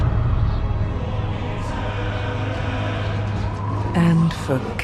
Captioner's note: chanting